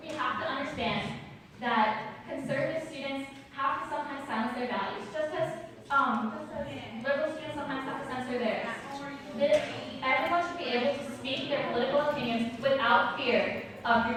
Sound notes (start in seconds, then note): none